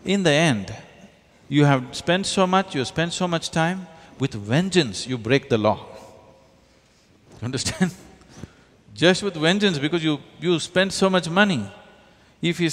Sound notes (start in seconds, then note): 8.3 laughs